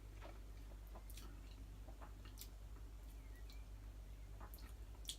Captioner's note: lips smacking